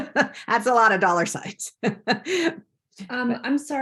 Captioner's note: laughs